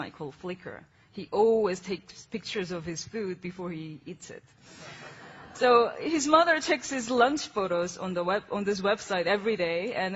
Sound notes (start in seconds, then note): 4.1 laughing